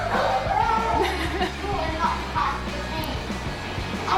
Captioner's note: laughter